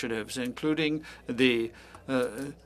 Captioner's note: speaking french